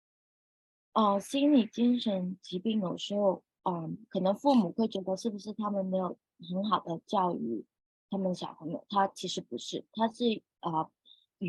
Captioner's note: speaking chinese